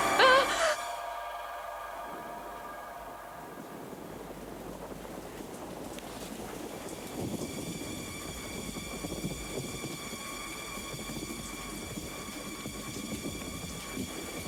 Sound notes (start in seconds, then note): 0.1 Cathy yelping; 7.2 thunder rumbling